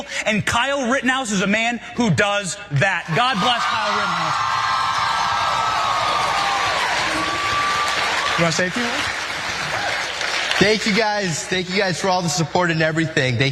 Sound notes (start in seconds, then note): 4.0 applause